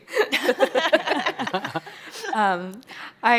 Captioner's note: chuckles